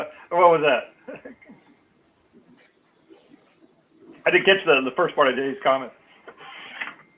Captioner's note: laugh